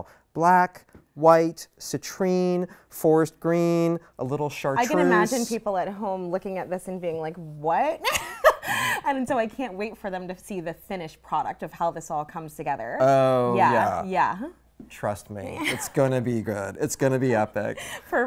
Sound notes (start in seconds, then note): 8.2 laughs